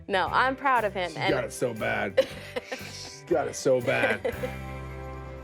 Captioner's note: laughter